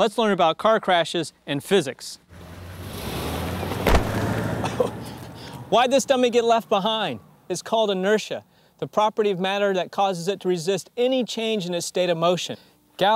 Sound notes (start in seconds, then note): 3.8 dummy thudding